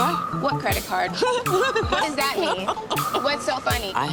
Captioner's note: laughing